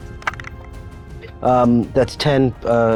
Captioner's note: dice clanks